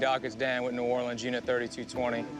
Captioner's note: on phone